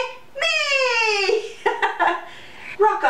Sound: laughter

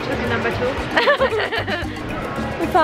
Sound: laughing

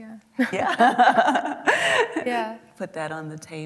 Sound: laughing

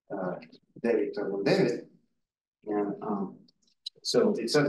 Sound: audio distorting

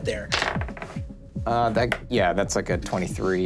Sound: dice clatters

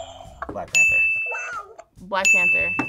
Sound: buzzer rings; buzzer; bell rings

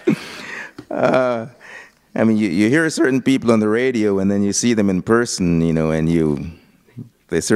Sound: laughter

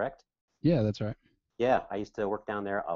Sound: voiceover

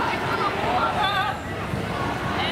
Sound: crowd noises

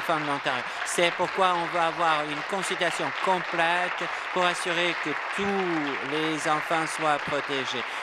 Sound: applause

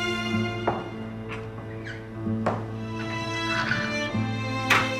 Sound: door opening sound

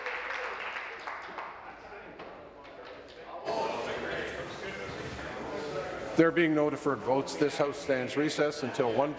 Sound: applause

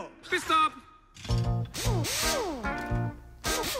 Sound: mechanical whirring

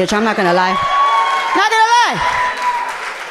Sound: audience cheering loudly

